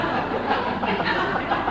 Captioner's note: laughter